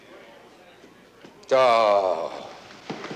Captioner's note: groans